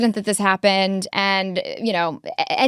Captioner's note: laughs